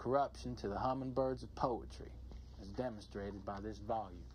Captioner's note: none